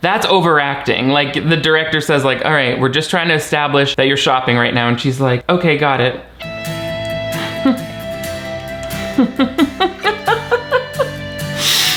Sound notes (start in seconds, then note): 6.4 upbeat instrumental music; 9.0 chuckles; 9.0 laughs